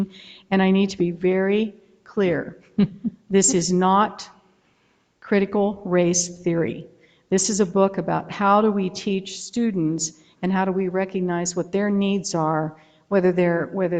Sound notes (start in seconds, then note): 2.8 board member laughing